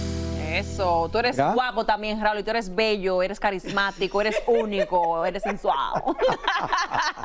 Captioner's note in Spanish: risas